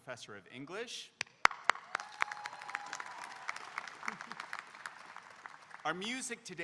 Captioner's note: audience applauding and cheering